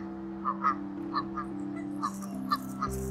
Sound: geese honking

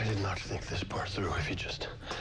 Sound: pants

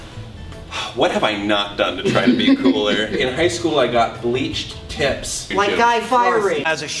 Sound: exhales quickly

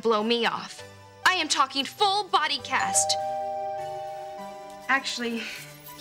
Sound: doorbell rings

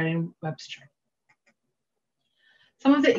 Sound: mouse clicking

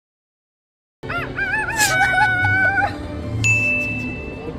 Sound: who suddenly makes chicken sounds

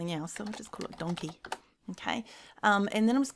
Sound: keys tapping

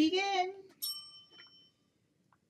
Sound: bell dings

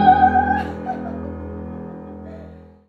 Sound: she laughs

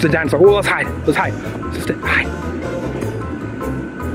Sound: whispers

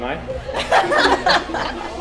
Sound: laughter

